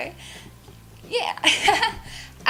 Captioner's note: laughs